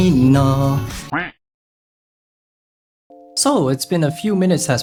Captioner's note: quack